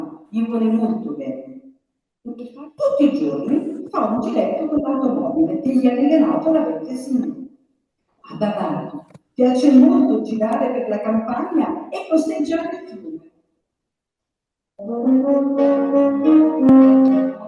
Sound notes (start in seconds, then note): 0.0 Italian; 2.7 Italian